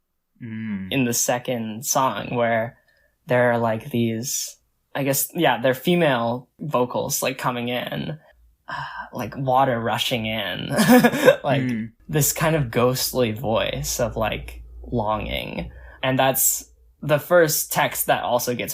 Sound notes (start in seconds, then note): 10.8 laughs